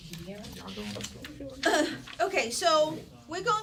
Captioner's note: murmur